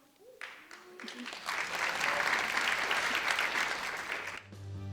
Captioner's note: audience applause